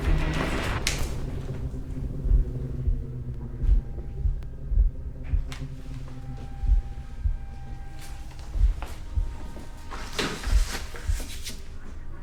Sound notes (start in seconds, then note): 0.7 light switch clicks; 10.0 clunking, rustling